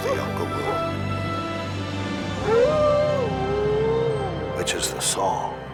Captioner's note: dramatic music swells; Buck howling